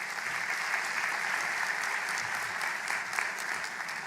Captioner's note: applause